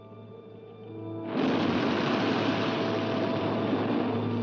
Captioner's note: ominous music; waves crashing; ominous music